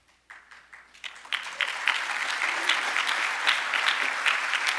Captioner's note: audience applauding